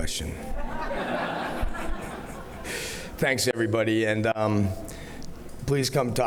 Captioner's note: laughter